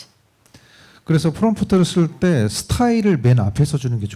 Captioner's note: speaking korean